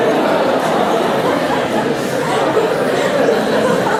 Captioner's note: laughter